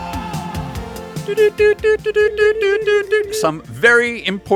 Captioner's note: morse Code noises